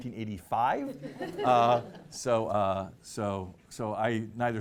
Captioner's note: laughing